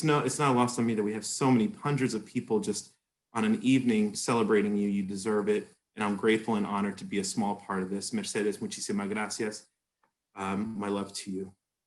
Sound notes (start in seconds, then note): 9.4 spanish